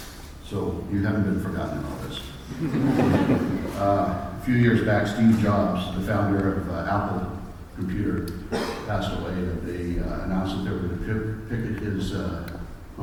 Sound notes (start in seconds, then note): 2.5 laughter